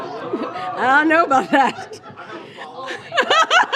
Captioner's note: laughter